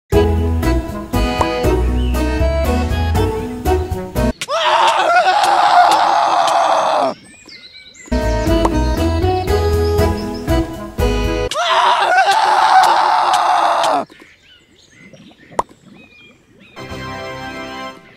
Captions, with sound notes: The Peaceful *Painful screaming* *More painful screaming*